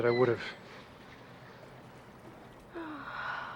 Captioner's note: sighs